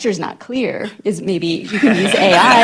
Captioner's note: laughter